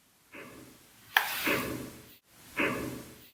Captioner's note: knock